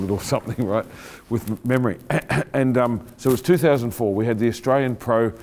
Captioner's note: clearing throat